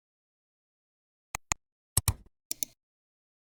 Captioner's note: 3 different clicks